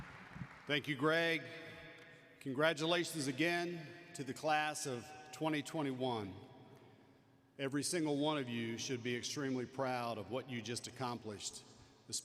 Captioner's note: cheering and applause